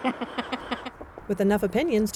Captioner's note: ^laughter^